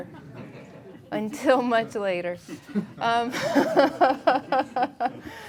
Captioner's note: laughing; laughing